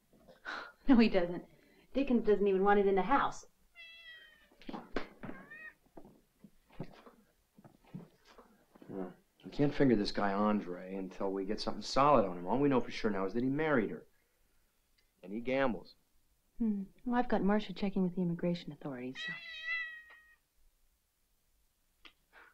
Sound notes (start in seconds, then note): 3.5 cat softly meows; 19.2 cat softly meows